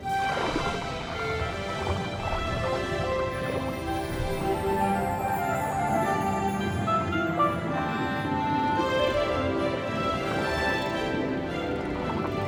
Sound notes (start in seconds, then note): none